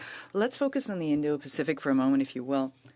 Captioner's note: speaking French